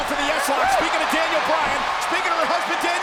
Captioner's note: spectators cheering